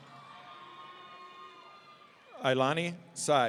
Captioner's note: audience cheering